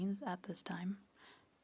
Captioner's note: speaking French